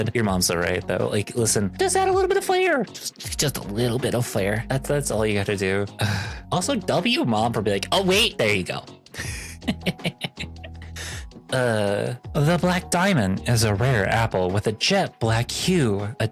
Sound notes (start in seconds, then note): 9.2 laugh; 10.8 sigh